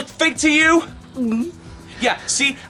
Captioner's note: gulps